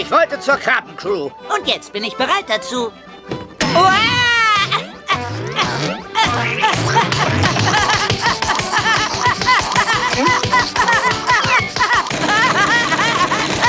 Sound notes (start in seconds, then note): 3.8 <i> yelping</i>; 9.1 <i> bouncing and yelping</i>